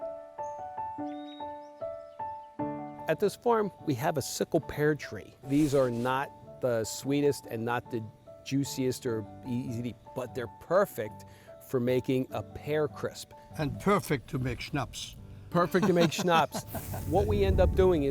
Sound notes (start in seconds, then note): 15.6 laughs